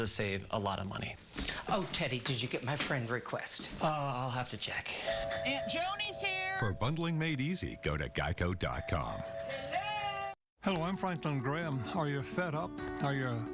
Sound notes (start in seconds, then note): 5.0 doorbell ringing